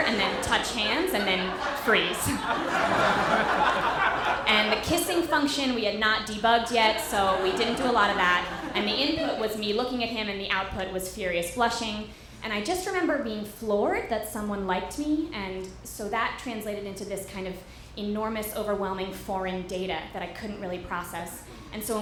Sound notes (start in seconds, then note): 2.5 audience laughter